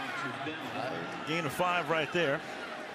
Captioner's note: pa announcement